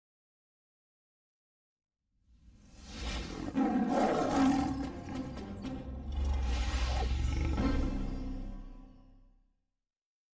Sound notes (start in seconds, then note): 3.3 Leo the Lion roaring